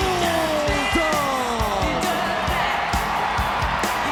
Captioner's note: crowd cheers